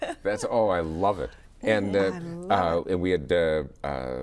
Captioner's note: laughs